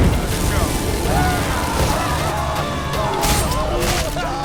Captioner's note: flames crackle; screaming